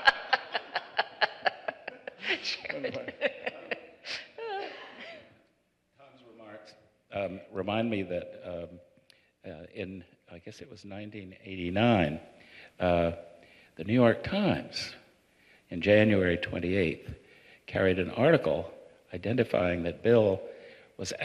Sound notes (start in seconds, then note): 4.0 laughter